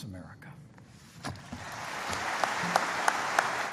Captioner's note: applause